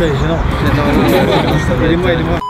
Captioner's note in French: rires des abonnés